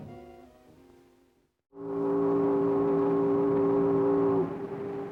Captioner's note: train whistling